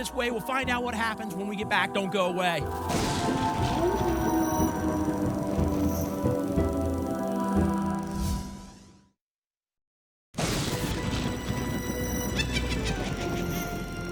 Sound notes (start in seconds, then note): 2.8 thunder; 3.2 wolf howl; 8.0 whoosh; 10.4 thunder; 12.4 witch cackle